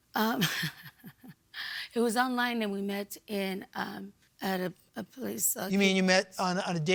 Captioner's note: chuckles